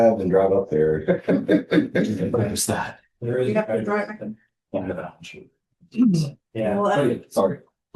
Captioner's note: laughter